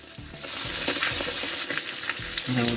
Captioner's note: water splashing